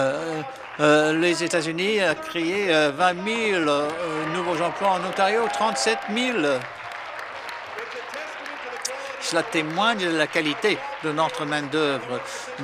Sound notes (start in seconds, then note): 7.1 some Applause